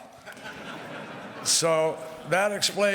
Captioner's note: laughter